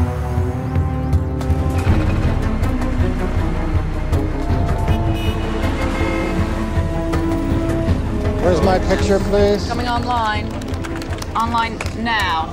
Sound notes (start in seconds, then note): 4.6 traffic sounds